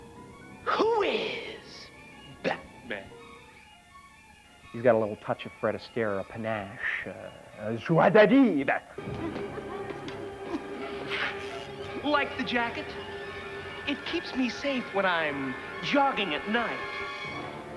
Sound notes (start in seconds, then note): 9.0 humming; 10.6 hissing